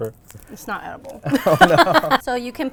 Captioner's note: both laugh